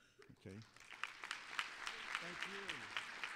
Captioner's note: applause